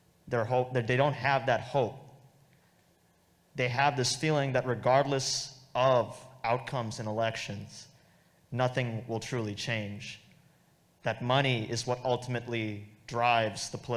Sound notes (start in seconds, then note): none